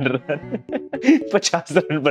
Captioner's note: laughing